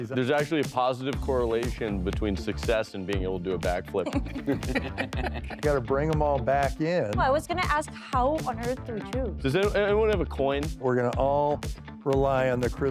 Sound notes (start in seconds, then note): 3.9 laughter